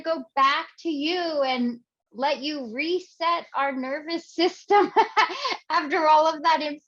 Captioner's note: laughing